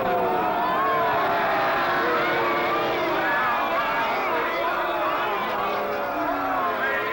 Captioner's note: crowd jeering; shouting